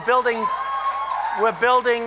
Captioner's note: applause